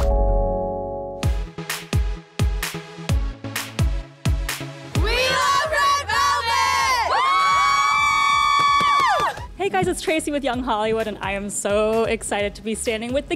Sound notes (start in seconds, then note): 0.0 electronic music; 7.1 cheering